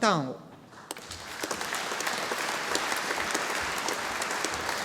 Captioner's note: audience applauding